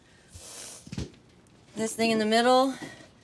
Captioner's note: sniffs